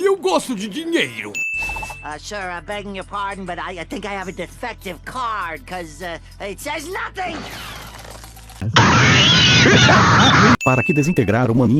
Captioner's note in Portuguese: risadas